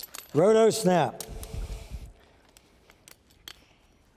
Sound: jangling

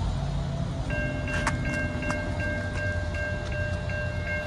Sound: railroad crossing bell ringing

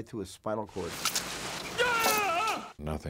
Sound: groaning

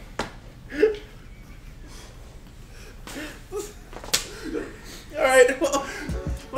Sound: laugh

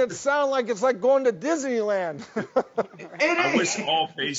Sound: laughs

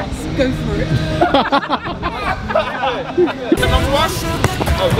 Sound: people laughing

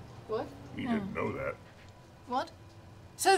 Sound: mutters

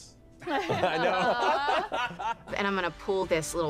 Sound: group laughter

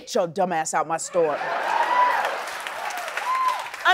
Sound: cheers and applause

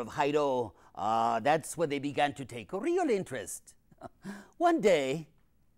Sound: laughs

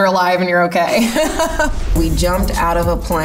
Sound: laughing

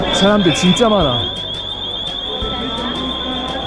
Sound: alarm beeps repeatedly; small squeaks repeatedly

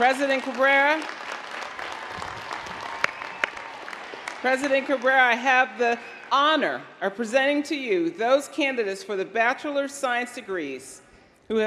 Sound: applause

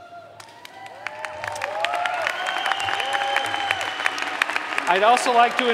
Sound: audience applause

